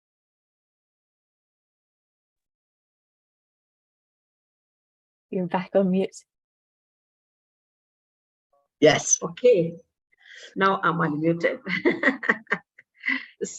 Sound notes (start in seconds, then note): 10.8 laughs